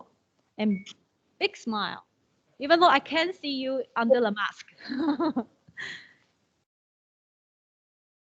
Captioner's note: laughing